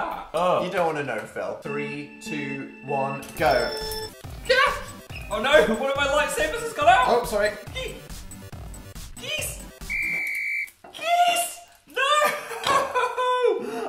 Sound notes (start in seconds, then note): 8.8 high pitched; 9.8 whistle of victory; 10.9 impossibly high-pitched